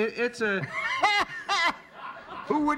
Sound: laughter

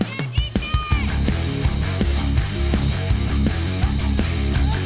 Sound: yelling

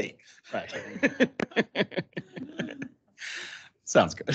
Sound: council members laugh

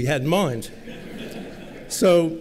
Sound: laughter

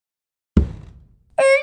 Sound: thud!

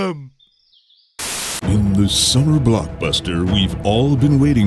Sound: deep booming announcer voice

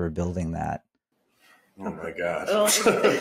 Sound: laughs

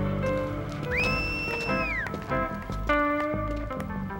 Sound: whistling

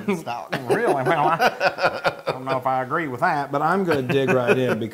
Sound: laugh

